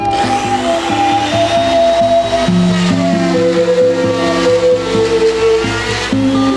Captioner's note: relaxing music; tools buzzing